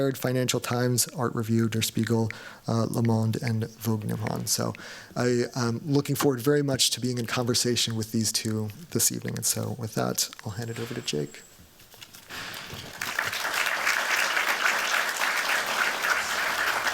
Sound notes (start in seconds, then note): 12.4 applause